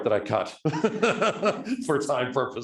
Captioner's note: laughing